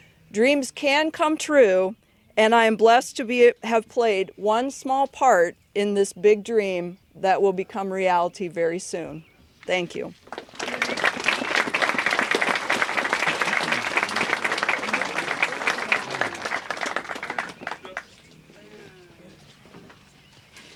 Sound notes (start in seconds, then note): 10.2 applause